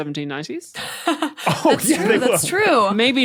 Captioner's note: laugh